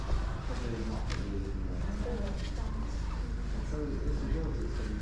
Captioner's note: background chatter